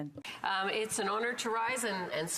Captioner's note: speaking French